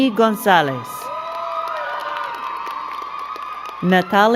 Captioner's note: crowd cheering and clapping